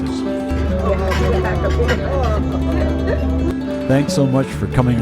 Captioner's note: sounds of delight